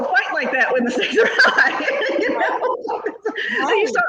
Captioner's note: laughs